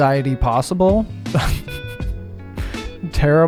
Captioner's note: laughs